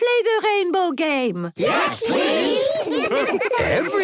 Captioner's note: laughter